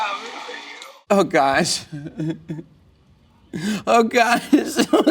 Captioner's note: laughs